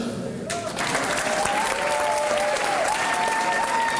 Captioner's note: applause